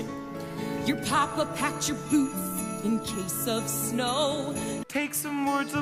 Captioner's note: sleigh bells in background